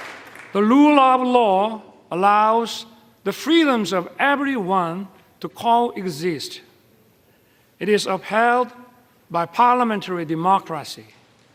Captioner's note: applause